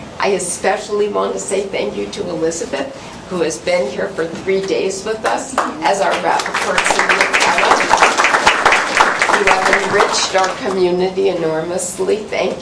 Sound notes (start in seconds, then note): 7.3 applause